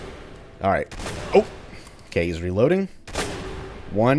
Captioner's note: Barrett's boomstick fires